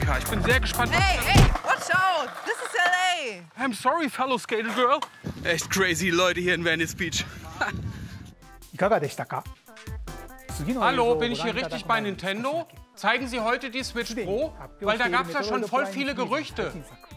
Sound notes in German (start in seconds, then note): 8.3 Er spricht japanisch